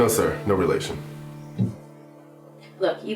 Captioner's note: office radio